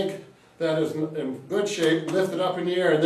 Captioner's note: hand tapping